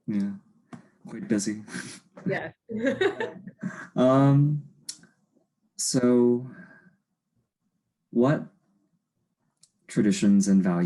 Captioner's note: laughs